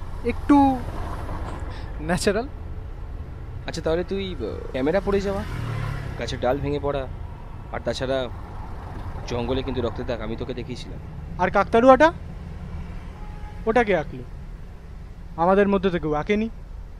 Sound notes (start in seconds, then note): none